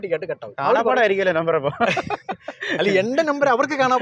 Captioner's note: laughing